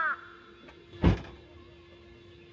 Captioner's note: slam